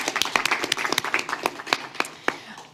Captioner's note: applause